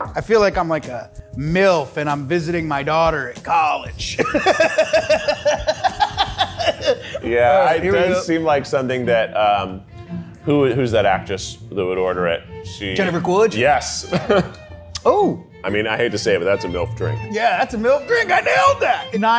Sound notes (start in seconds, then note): 4.1 both laughing; 14.0 laughs